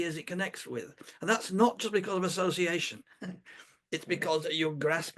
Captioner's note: laughs